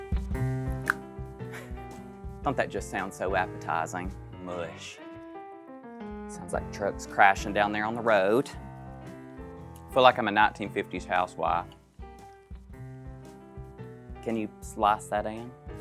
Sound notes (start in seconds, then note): 0.8 tongue clicks